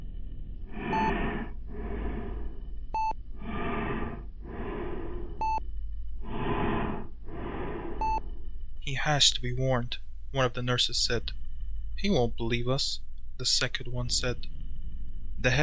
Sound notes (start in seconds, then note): 0.6 shallow breathing